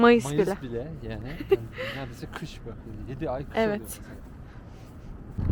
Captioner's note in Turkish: kahkaha